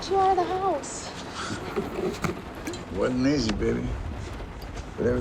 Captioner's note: chuckles